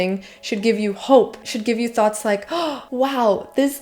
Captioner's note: gasp